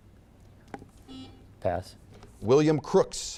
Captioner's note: buzzer beeping